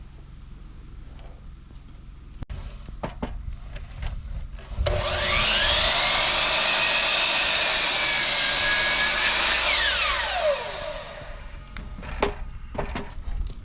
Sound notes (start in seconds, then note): 4.8 drill whirring; 4.9 engine revving